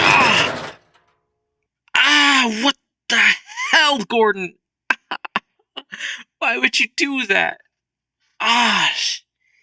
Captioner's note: bucket hits head